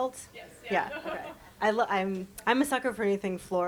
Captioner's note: chuckling